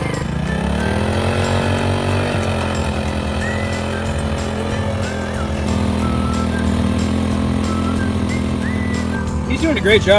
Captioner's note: engine roaring; light whistling music